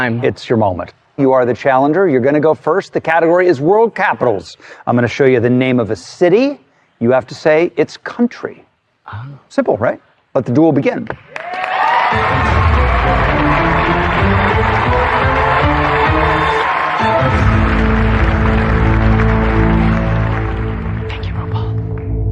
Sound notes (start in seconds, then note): 12.2 cheering and applause; 13.8 dramatic music